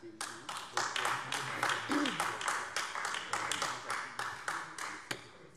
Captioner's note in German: Beifall AfD